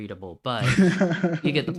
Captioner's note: chuckles